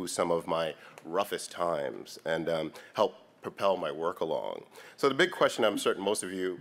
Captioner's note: none